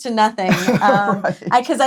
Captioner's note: laughs